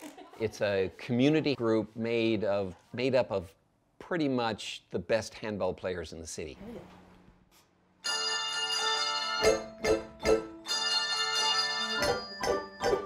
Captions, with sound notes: It's a community group made up of pretty much the best handbell players in the city. (bells ringing)